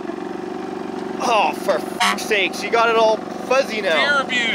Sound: machine rumbles; honk

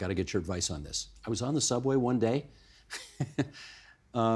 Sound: chuckling

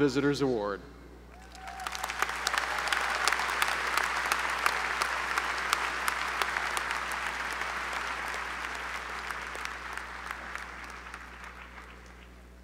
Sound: applause

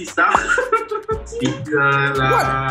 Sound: laughs

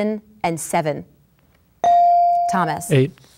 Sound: ding

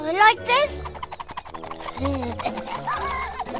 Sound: wings flap; laughs

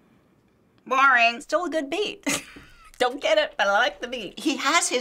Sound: chuckles

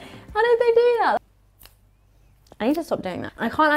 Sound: fingers snapping

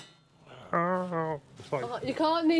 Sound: grunting

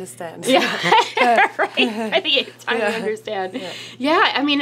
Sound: laughs

